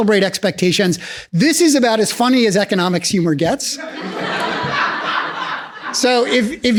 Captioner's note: laughs